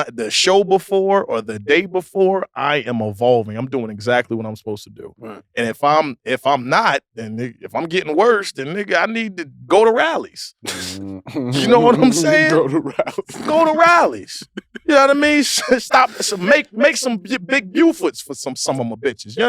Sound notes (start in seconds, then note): 10.6 group chuckles; 13.1 laughs